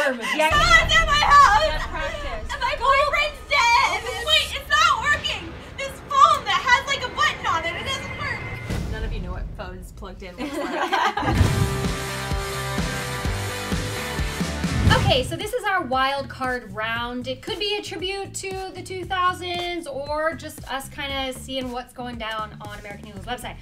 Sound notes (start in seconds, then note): 10.4 presenters laugh; 11.2 upbeat teenage rock music